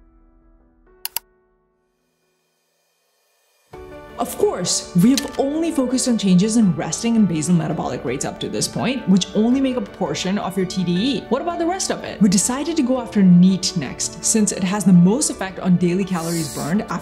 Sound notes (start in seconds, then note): 1.0 mouse clicking